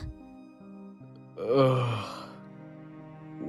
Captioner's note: Jupiter groans